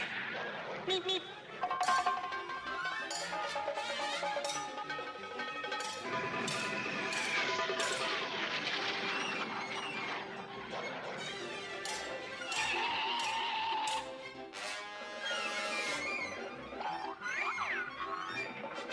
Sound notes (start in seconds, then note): 0.8 beep beep; 12.8 screech